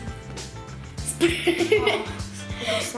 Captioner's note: laughter